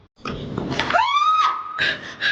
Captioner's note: screaming; panting